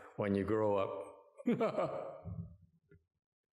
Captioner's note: laughter